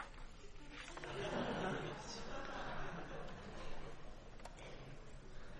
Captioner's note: laughing